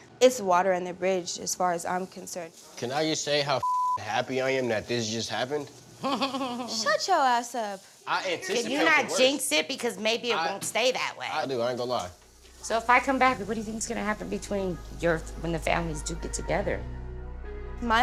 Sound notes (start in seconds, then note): 3.6 beep; 6.0 chuckles